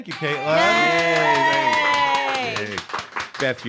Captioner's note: cheers